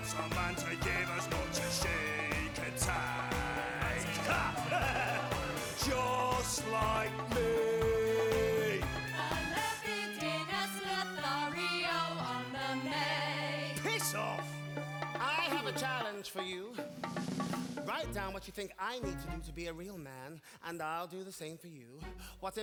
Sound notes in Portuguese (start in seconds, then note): 3.8 Don laughs